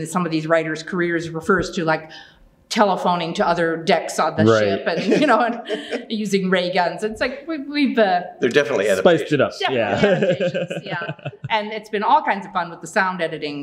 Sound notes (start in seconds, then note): 9.6 laughing